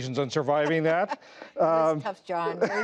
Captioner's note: laughter